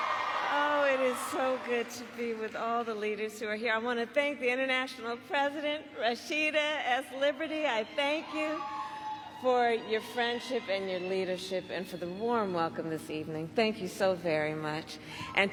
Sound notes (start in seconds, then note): 2.3 applause